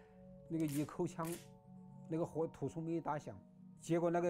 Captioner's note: gun cocking